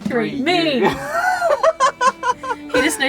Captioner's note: laughing